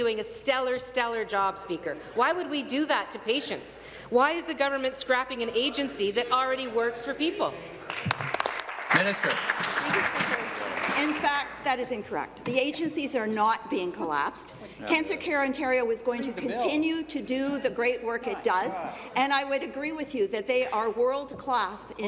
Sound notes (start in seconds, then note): 12.2 applause